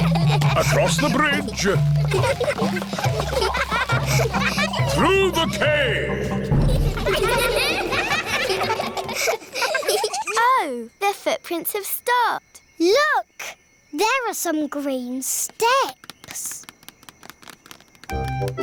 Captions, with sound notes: Across the bridge. (ECHOING) Through the cave. Oh. The footprints have stopped. Look! There are some green steps.